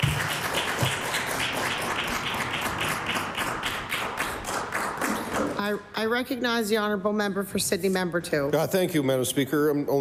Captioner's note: applause